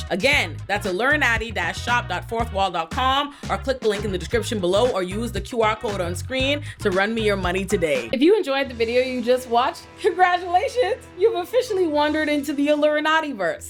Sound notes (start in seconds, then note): none